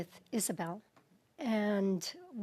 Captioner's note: speaking French